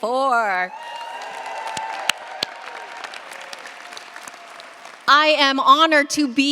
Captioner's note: cheers, applause